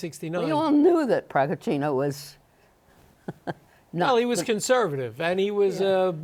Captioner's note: chuckles